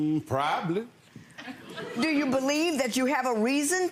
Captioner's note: audience laughing